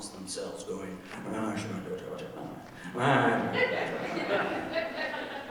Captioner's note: mumbles and grumbles; audience laughing